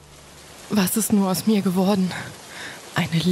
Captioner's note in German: Regenprasseln